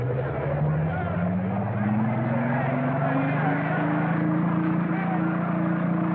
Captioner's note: crowd Clamoring, Shouting; engine Humming